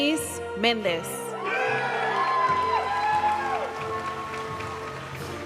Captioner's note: audience cheering and applauding; graduation music